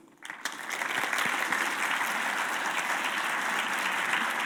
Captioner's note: audience applauding